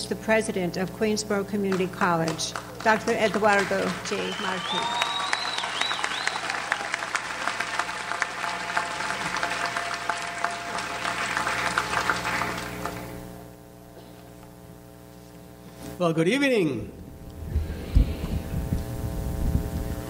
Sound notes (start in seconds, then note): 4.9 audience applauds